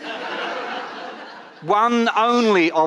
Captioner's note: audience laughing